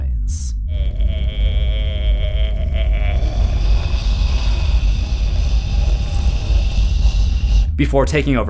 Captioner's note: demonic growl